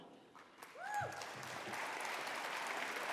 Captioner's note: applause